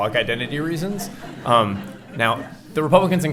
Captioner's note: laughing